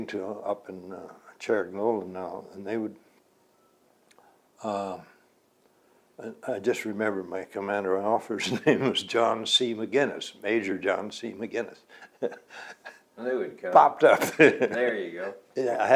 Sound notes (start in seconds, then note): 8.5 laughs